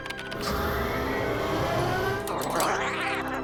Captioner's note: electronic warbling; hydraulics whining; shuddering